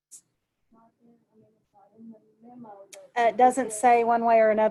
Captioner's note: murmurs